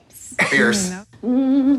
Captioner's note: laughs; woman hums